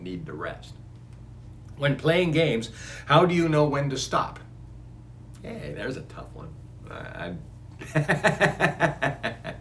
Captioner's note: laughs